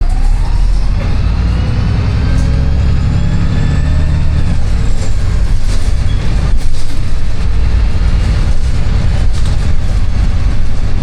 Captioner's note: bus sounds